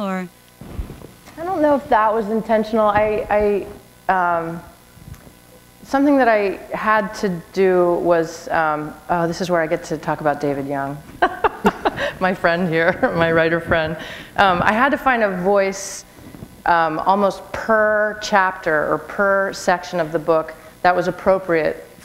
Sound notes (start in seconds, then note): 11.1 laughter